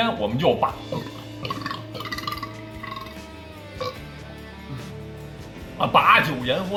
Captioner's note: hic hic hic hic ~